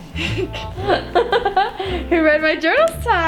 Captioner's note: both laugh